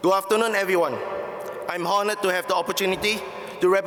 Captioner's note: none